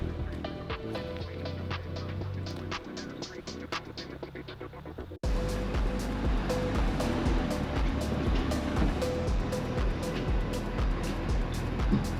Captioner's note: engine revving